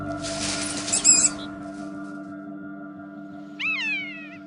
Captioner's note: mouse screaming